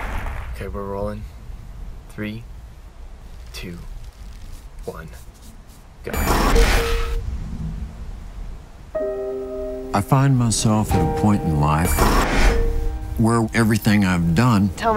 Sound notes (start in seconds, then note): 3.3 chain clicking; 4.0 brush swiping; 6.1 electronic beeps; 6.1 electronic reverberations; 8.9 melancholy music; 11.9 electronic reverberations